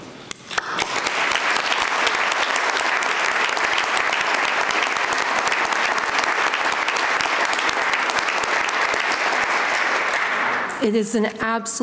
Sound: applause

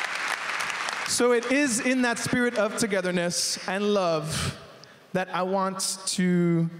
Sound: applause

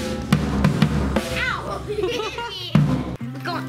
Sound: laughs

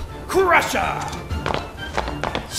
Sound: footsteps on stone

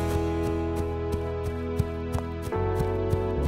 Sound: footsteps

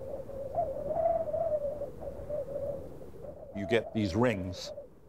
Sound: wind whistling

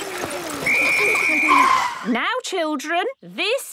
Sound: whistle blowing

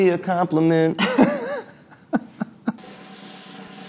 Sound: both laughing; drum rolling

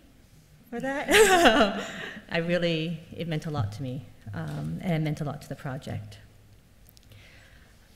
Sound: laughs

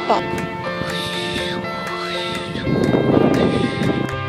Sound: whooshing sounds

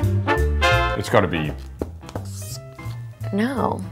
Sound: marker on paper

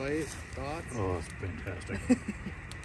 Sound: laughs

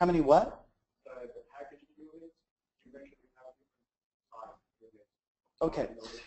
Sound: faintly speaks

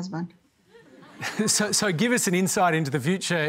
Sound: laughter

